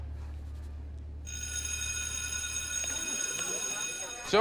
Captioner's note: bell rings